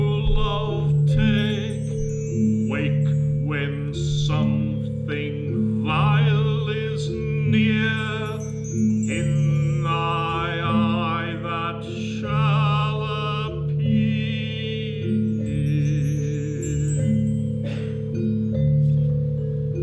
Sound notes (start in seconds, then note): 16.5 twinkly sounds